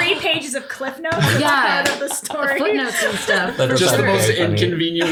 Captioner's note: laughs